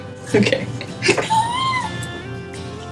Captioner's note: laughing